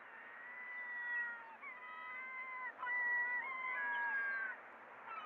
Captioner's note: seagulls screeching